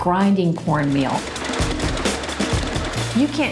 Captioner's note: mill grinding